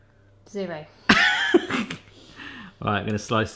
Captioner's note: laughing